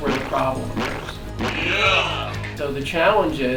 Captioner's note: squishing sound